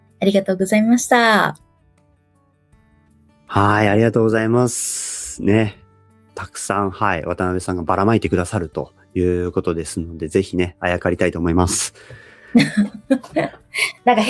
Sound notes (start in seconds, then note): 12.6 laughs